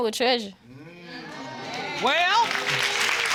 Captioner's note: audience exclaim and applaud